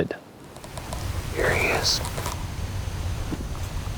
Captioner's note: whispering